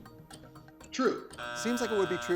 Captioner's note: buzzer drones